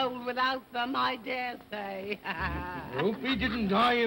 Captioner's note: laughing